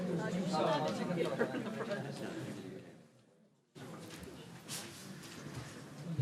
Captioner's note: audience indistinctly chatting